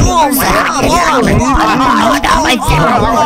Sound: A great deal of commotion

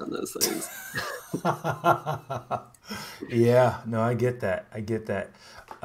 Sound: laughs

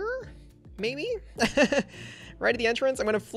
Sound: laughs

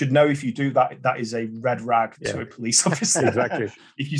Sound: laughs

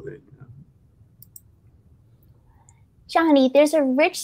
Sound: mouse clicking

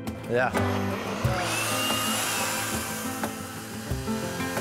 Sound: saw whirring

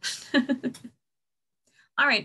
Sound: laughs

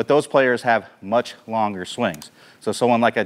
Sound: mouse clicks

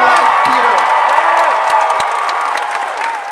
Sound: cheers and applause

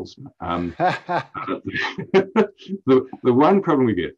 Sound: laughs

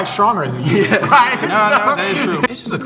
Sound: both laugh

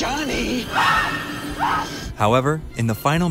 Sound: woman screaming

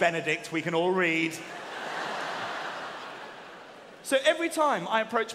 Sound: audience laughing

